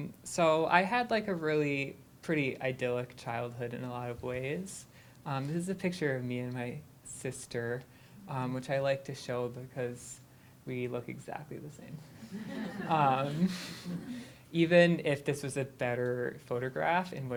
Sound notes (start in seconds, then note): 12.0 laughter